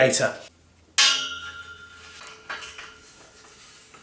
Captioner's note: metal clangs